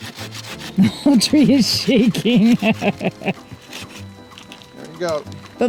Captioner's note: laughs